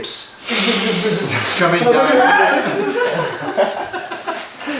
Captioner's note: cheerful laughing